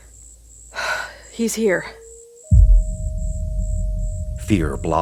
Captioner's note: taking a deep breath